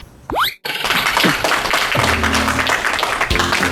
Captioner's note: applause